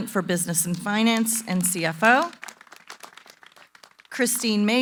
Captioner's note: applause